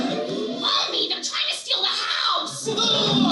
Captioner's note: Marge Simpson Voice